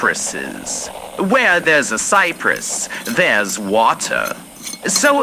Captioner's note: unscrewing jar lid fx